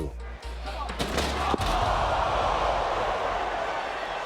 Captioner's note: body thuds